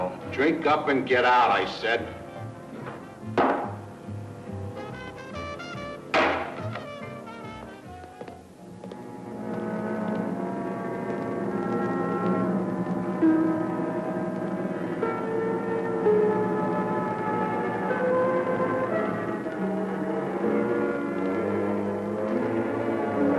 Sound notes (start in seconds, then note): 3.4 glass slams down; 6.0 coin slams down; 8.6 ominous music